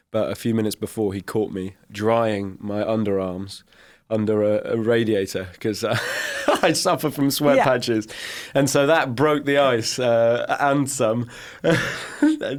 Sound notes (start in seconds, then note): 7.4 laughs; 11.6 chuckles